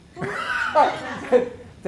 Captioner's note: laughter